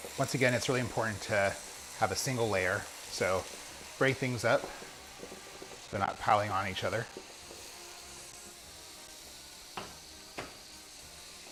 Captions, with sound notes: Once again it's really important to have a single layer, so break things up so they're not piling on each other. (sizzles)